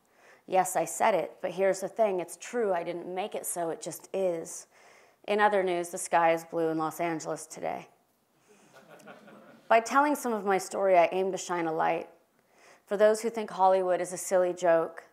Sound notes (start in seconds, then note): 8.6 laugh